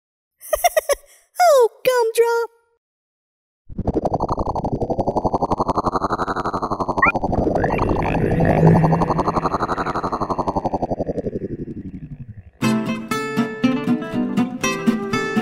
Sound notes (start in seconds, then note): 0.5 laughs; 3.7 alien spaceship sounds